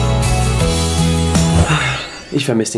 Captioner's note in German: seufz